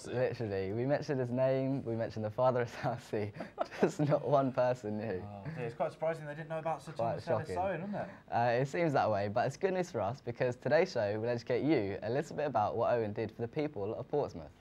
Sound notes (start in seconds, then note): 3.3 chuckles